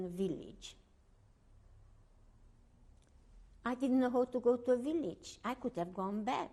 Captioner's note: pauses for 3 seconds